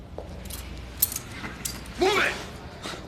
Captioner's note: laughs